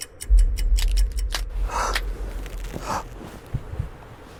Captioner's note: clock ticking; twigs snapping